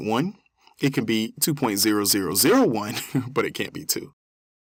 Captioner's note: laugh